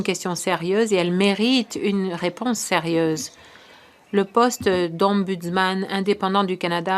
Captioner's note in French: voix de l'interprète